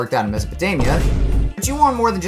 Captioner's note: thump